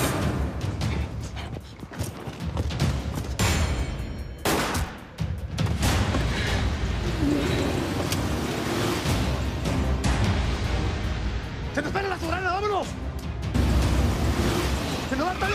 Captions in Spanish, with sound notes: [Disparo] - ¡Se nos pela la Soberana! ¡Vámonos!